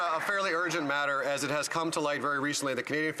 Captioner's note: some Applause